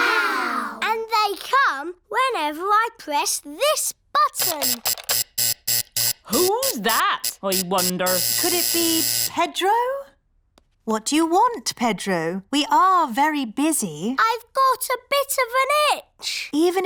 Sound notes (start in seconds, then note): 4.4 alarm buzzes